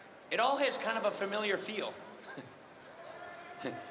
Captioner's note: cheering and applause